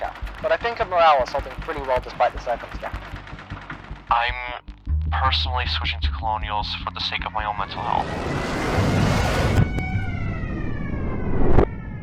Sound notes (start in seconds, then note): 7.4 rocket sirens; 7.7 rocket launch